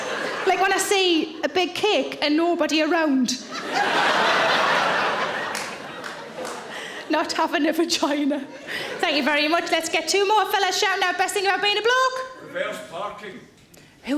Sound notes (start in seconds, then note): 3.4 audience laughing